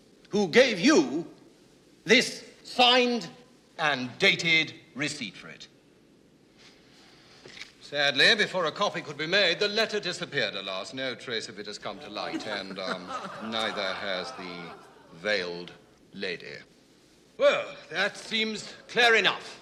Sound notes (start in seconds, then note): 15.1 all laughing